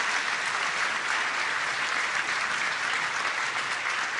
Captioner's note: applause